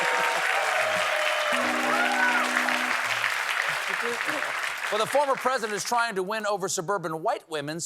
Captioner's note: cheers and applause